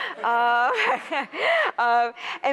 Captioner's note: laughter